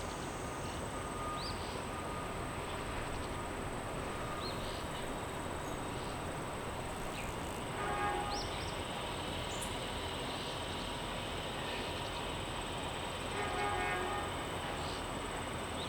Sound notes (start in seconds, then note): 0.0 wind blowing; 6.1 wind blowing